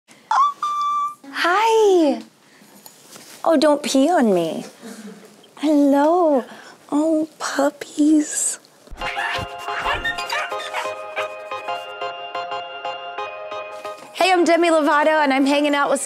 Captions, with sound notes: - Hi. Oh, don't pee on me. Hello, oh puppies. (upbeat music) (barking) Hey, I'm Demi Lovato and I'm hanging out